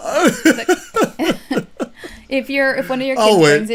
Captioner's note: laughter